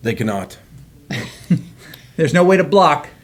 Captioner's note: all laugh